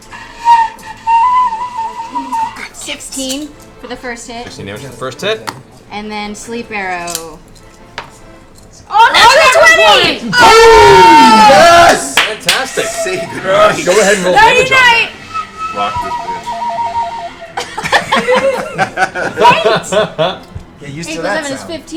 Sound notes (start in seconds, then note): 10.3 cheering; 16.9 shaky flute music